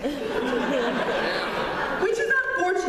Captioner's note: laughter